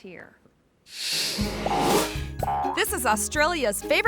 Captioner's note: wombat boinging; screen whooshes